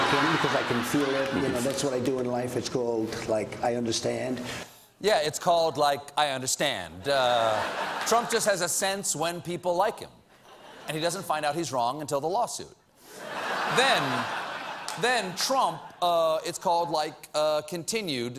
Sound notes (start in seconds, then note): 13.2 laughter